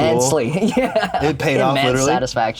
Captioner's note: laughs